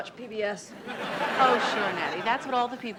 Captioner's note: audience laughs